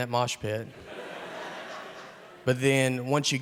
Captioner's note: audience laughing